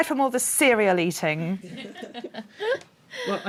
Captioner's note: laughter